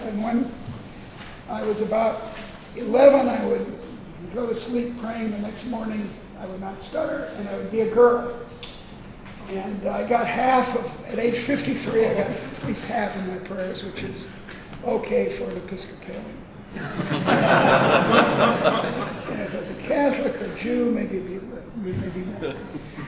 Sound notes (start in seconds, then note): 16.7 audience laughs